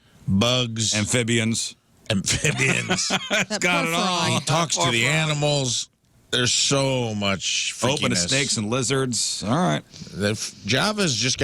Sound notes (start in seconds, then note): 2.3 laughing